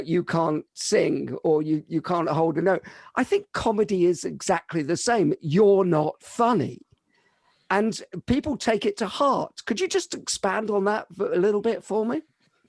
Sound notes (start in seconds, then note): none